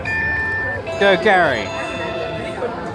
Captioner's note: beeping